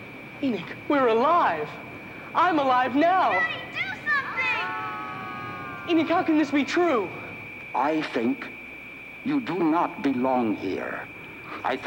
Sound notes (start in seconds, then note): 5.0 group yelling